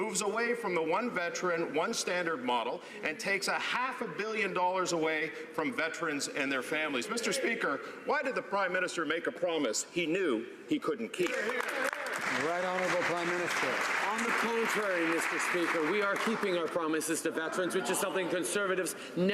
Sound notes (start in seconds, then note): 14.4 some Applause